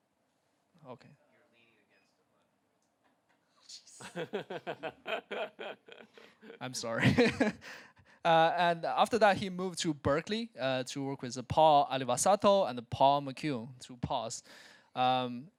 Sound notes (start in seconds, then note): 4.0 laugh